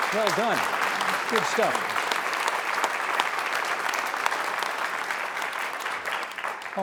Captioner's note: applause